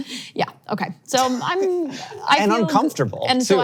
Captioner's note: laughs